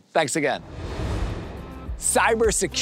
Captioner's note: air whooshing